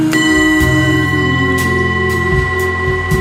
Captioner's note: clang continues